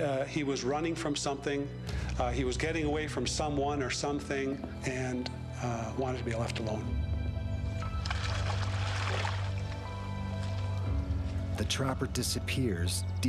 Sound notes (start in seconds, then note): 7.8 water sloshing; 11.7 voiceover